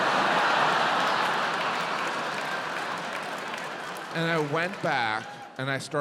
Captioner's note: audience cheering, applauding